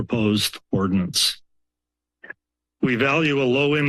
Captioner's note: pause